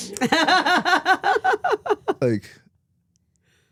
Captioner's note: Stephanie laughs